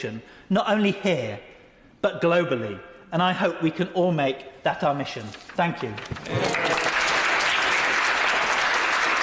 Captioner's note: applause